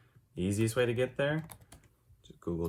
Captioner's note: keyboard typing